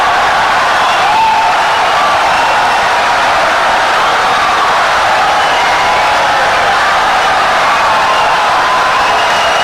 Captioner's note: wild applause and cheering for 17 seconds